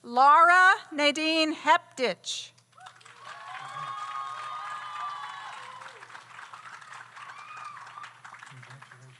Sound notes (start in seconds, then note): 2.8 audience applauds; 2.8 audience cheers